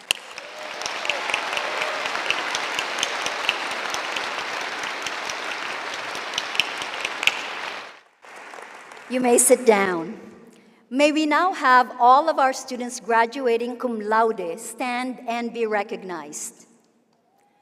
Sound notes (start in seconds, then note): 4.2 applause